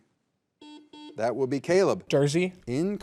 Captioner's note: buzzer buzzing